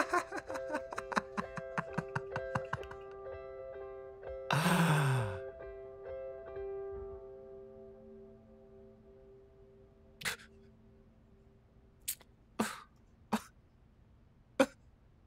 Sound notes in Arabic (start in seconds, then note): 0.0 يضحك; 11.0 بكاء